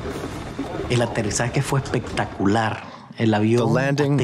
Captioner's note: speaking foreign language